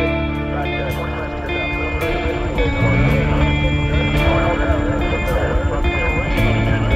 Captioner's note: blades whirring